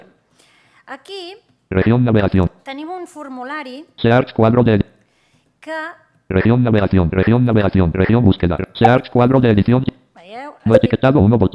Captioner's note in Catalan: veu robòtica; veu robòtica que llegeix la pantalla; veu robòtica